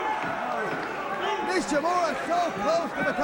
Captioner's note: crowd chatter